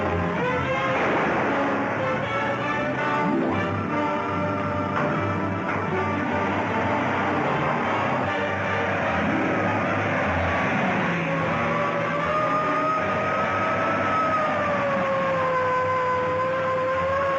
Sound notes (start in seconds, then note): 0.0 gun firing; 6.8 engine revving; 10.0 siren blaring